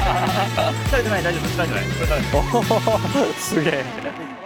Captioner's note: laughs